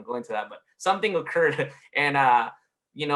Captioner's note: laughs